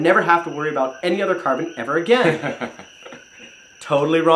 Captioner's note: chuckles